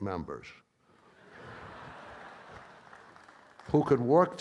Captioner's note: audience laughs and claps